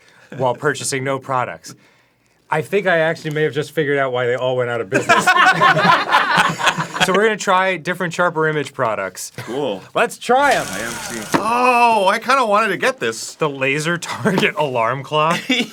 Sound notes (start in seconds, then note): 4.9 the laughter of people who have also done this